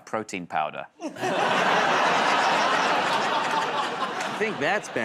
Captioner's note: laughter